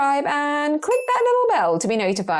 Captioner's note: bell dings